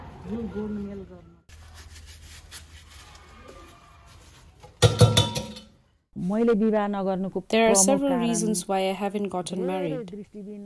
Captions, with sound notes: [scrubbing sounds] There are several reasons why haven't gotten married.